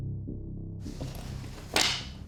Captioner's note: clatter